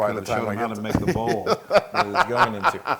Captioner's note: laugh